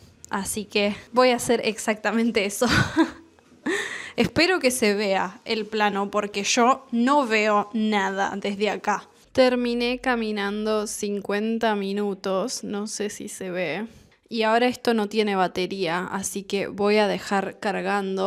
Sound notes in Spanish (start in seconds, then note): 2.6 risas